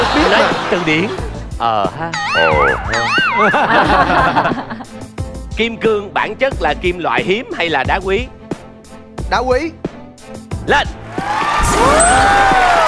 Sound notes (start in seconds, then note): 3.0 laughing